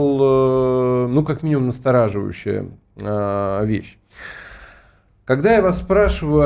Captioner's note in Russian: вздыхает